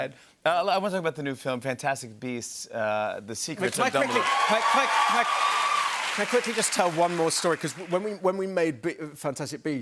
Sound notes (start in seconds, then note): 3.7 cheers and applause